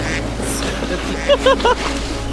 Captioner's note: laughter